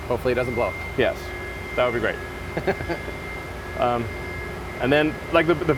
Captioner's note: chuckles